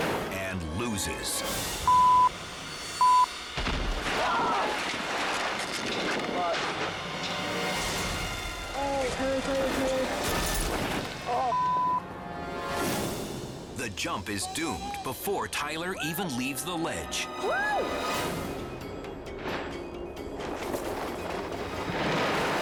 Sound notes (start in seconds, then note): 3.0 beep; 4.1 screams; 6.2 dramatic music; 11.5 beep; 19.7 canopy opens